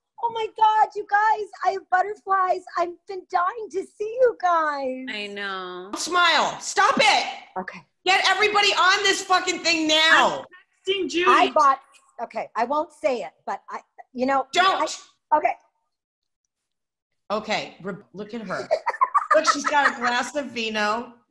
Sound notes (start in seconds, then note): 18.6 laughing